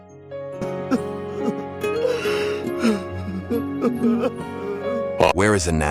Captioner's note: crying